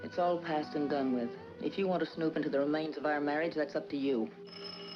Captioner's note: phone ringing